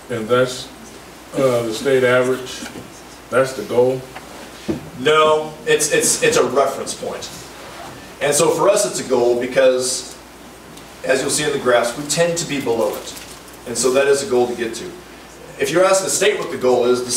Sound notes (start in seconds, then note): none